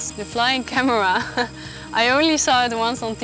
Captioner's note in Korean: 웃음